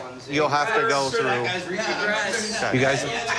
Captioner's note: arguing